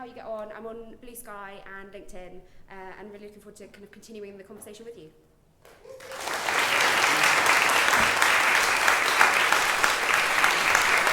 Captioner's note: applause